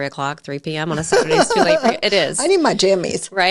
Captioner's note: laughing